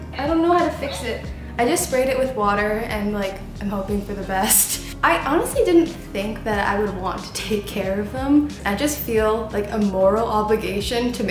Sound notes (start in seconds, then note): 4.6 laughs